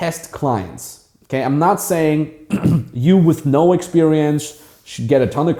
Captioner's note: clears throat